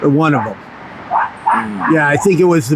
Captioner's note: dog barks